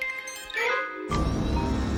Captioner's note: bus beeps